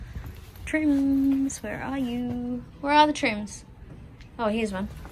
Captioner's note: calls out lightly